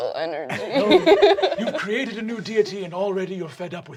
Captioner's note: cast laughing